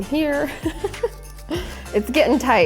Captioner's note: laughs